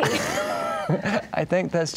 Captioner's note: laughing